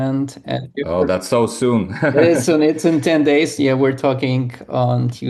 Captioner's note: chuckles